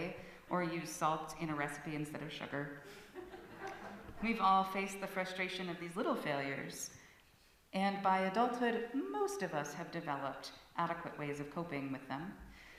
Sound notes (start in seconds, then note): 3.0 laughter